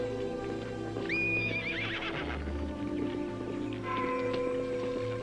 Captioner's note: horse whinnying